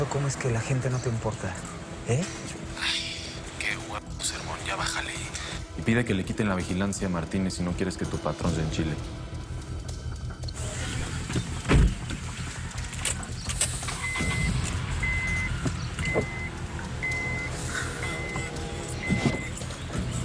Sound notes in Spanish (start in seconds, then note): 11.3 Portazo; 14.8 Ruido al prender el motor